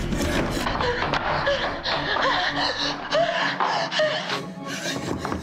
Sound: heavy breathing

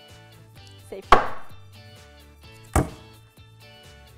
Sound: banging; pot hitting desk

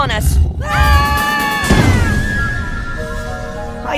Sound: screams

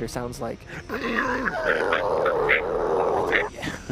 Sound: groans

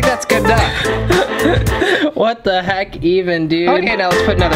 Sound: snickers

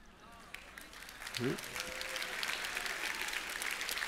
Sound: applause

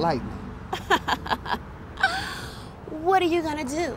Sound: Marlene laughs

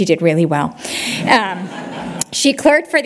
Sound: laughter

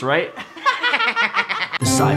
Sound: laughter

